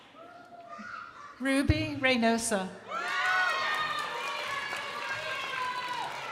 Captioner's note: crowd applauding